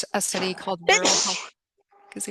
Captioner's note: sneezes